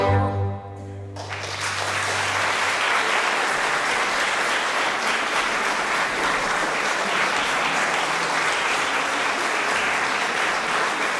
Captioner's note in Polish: oklaski